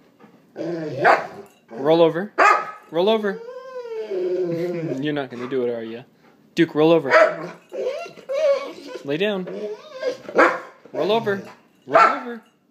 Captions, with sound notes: [Frustrated barks] Roll over. Roll over! You're not gonna do it, are you? Duke, roll over. [Excited whines] Lay down. [Excited barks] Roll over! Roll over!